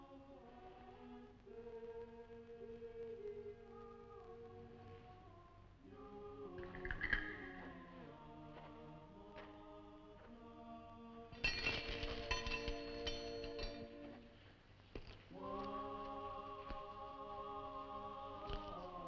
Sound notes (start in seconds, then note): 11.4 chains rattling; 15.2 singers vocalizing